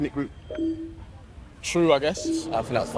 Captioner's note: scoreboard beeps